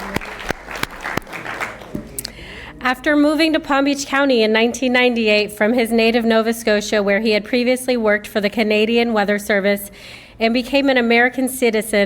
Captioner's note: applause